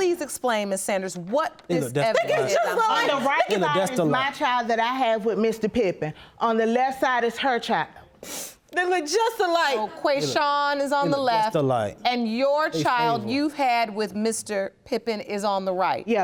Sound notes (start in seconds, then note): 2.2 yelling; 8.2 sniffling